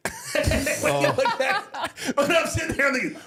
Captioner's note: all laughing